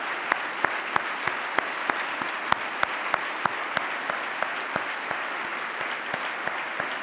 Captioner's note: applause